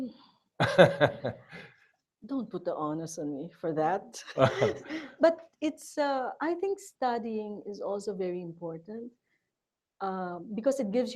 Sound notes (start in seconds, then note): 0.6 laughs; 4.3 chuckling